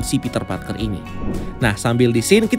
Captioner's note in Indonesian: suara transisi